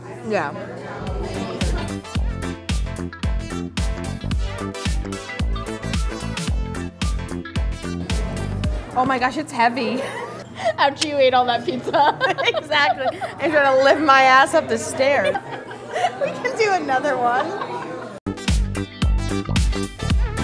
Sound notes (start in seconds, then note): 1.0 upbeat music; 9.8 laughing; 18.2 upbeat music